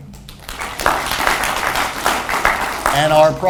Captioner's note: audience applauds